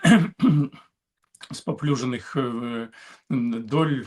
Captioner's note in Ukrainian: прочищення горла